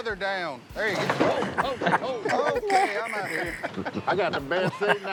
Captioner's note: laughing